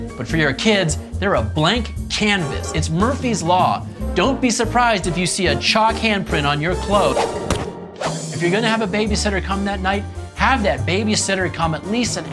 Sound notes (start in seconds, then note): 7.4 hand slap smacking